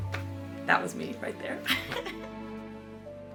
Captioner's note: laughs